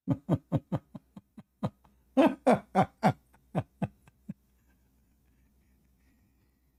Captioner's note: Ketawa